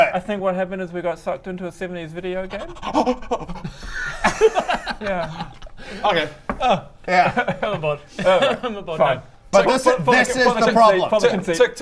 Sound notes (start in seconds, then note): 2.5 crazed noises